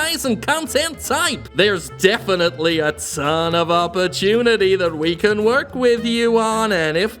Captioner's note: voice deepens